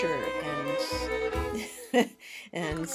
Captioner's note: chuckle